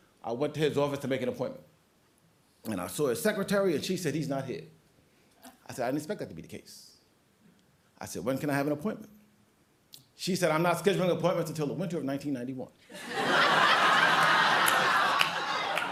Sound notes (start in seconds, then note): 13.9 applause